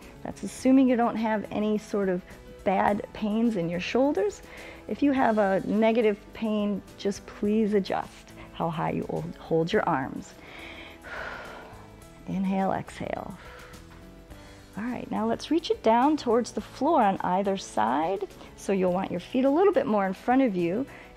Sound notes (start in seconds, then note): 10.4 inhales and exhales; 13.7 exhales